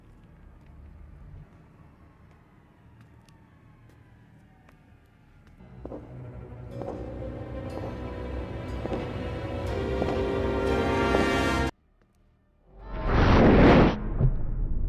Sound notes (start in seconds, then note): 5.6 dramatic music; 12.8 whooshing sound